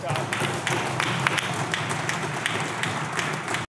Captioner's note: clapping